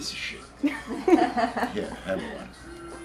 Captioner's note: laughing